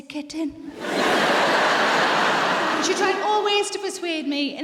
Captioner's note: audience laughs